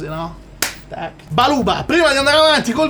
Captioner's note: milanese slang